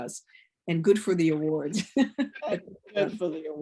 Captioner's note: laughs